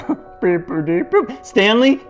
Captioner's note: goofy moaning